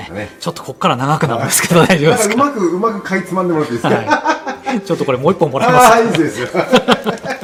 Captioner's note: laughs